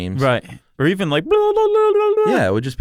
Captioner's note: makes foolish noises